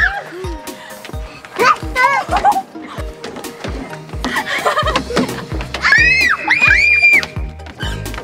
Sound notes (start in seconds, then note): 5.8 screams